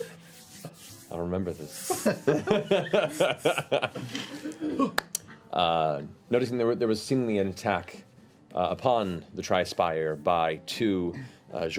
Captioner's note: laughs